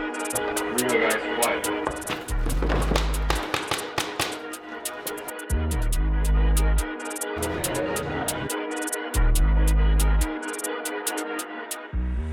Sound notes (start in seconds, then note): 0.0 music intensifies; 0.2 voice on radio; 1.6 multiple dust pellets hitting wall